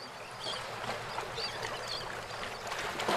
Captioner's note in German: Möwenkreischen